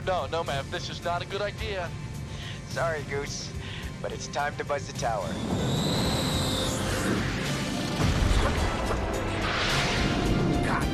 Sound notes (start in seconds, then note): 4.8 jet engine whirring; 7.6 upbeat music